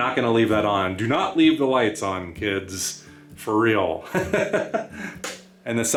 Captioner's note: laughter